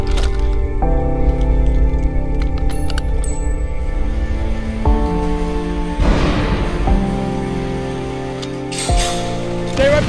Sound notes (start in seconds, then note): 2.3 grenade pin clatters; 6.0 explosion booming faintly